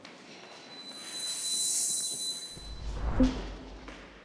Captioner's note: whooshes